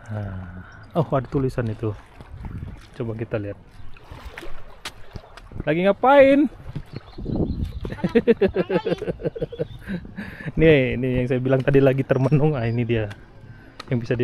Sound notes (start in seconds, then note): 7.8 laughs